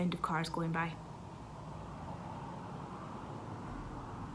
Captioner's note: car engine